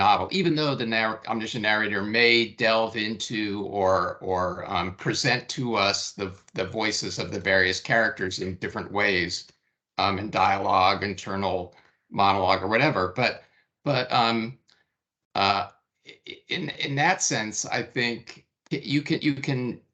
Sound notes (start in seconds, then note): none